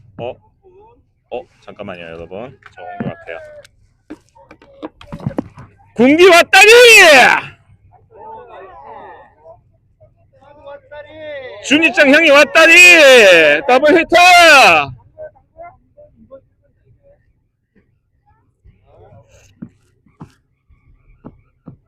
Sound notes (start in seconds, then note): 8.1 cheers of 'Nice!' from everyone around